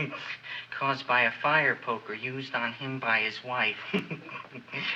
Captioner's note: laughs